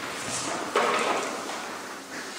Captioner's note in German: Klappern